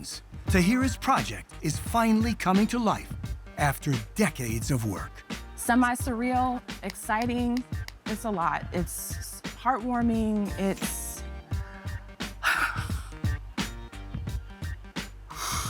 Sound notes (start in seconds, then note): 7.5 clapping; 12.2 wavering sigh